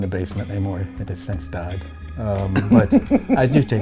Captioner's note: laughs